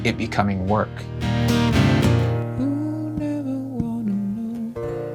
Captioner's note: humming melodically